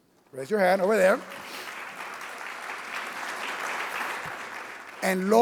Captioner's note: audience clapping